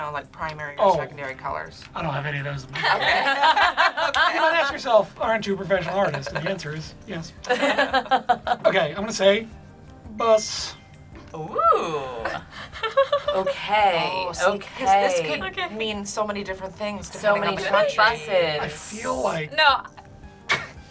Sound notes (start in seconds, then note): 2.8 group laughs; 7.4 group laughs; 10.2 word twinkles; 12.2 laughs